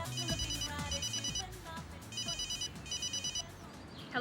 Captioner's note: phone ringing